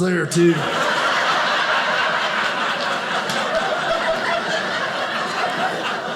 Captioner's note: audience laughing